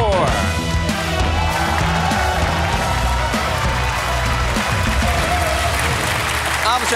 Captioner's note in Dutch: applaus en gejuich